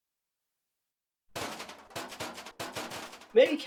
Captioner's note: lockers rattling